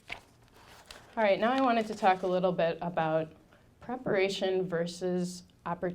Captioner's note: none